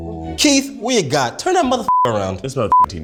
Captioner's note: beeps